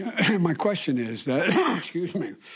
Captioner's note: coughs